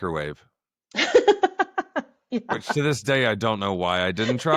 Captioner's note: laughter